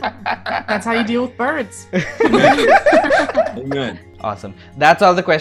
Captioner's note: laughter